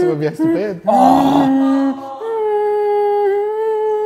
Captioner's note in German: Melodisches Summen; Stöhnen